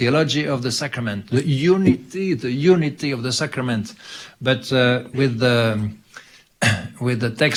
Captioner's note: clears throat